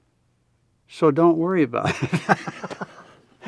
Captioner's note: laughs